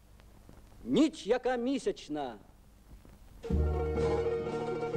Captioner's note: speaks in Ukrainian